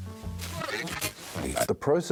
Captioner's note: radio crackling